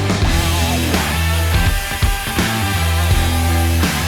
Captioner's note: grinder Buzzing